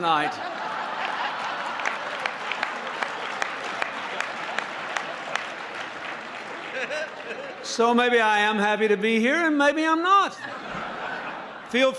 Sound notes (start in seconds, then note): 2.5 laughter; 3.7 applause